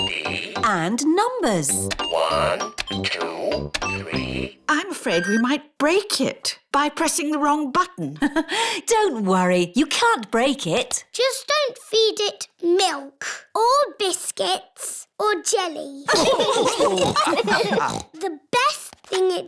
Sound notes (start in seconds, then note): 6.8 laughs; 16.0 laughter